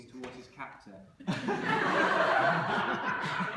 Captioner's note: laughter